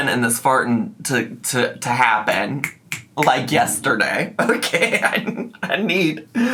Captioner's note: laughs